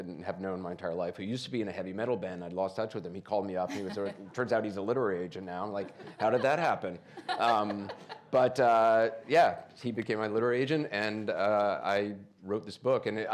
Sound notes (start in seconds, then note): 7.2 laughs